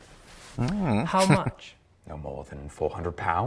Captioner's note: chuckling